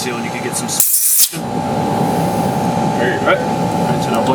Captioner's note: air hisses